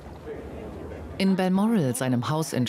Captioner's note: people chattering